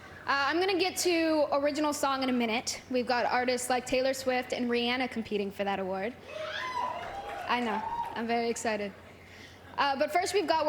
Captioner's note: applause